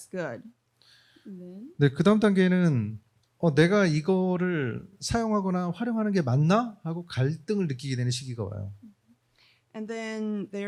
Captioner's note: speaking korean